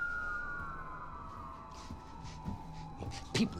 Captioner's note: police sirens